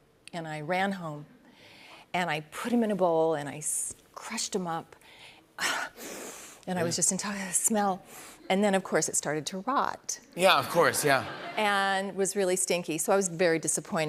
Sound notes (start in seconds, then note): 5.9 inhales deeply